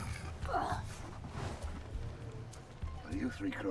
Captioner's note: man grunts